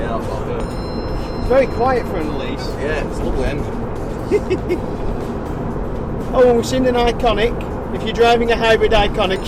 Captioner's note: laughs